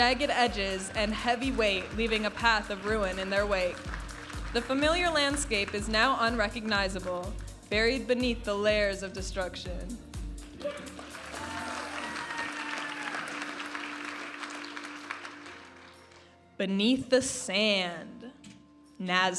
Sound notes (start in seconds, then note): 10.5 audience applauding and cheering; 14.4 vibrant music